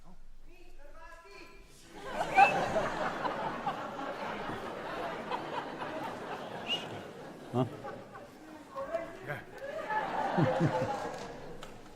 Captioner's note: laughter